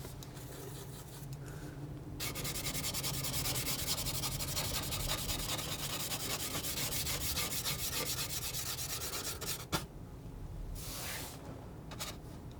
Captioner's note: scratching